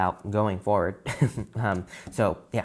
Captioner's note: laughs